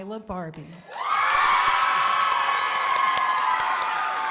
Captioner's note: crowd applauding